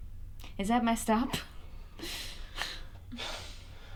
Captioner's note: laughs